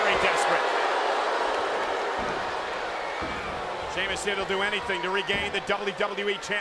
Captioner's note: applause